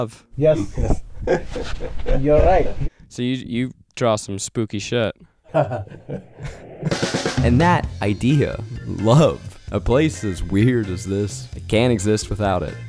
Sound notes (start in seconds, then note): 0.6 laughs; 5.5 owner laughs; 6.0 drum music